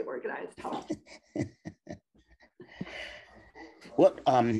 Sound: laughing

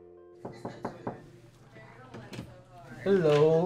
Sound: knocking

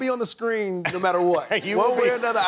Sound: laughs

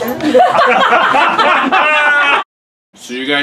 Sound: laughing

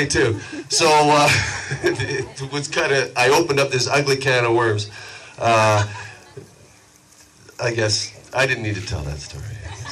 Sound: chuckles; audience laughs

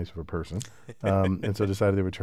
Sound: laugh

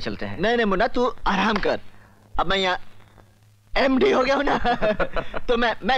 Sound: laughs

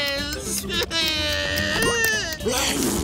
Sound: crying

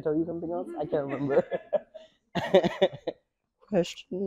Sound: laugh

